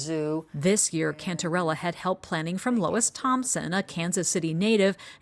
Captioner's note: voice-over